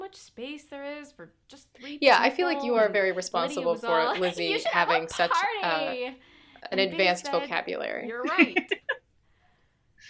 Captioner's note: laughter